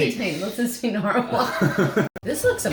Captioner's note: chuckling